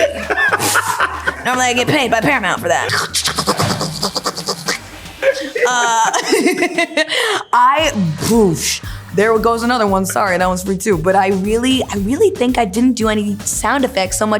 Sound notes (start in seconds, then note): 0.0 laughter; 2.6 mouthing sound effects